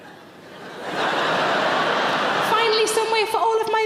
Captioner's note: audience laughs